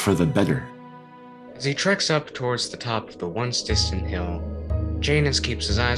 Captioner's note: over wind